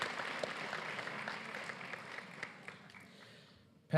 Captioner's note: applause